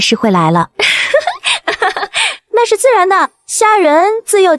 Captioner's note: giggles